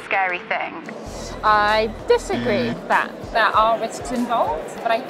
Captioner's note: voice over radio static; buzzer sound